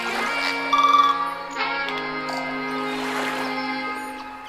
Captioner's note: birds chirping; waves crashing